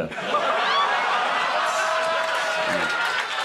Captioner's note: crowd laughs